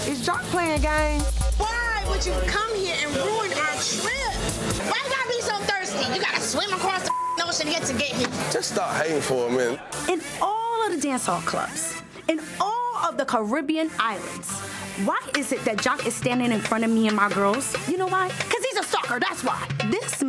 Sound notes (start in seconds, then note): 7.0 beep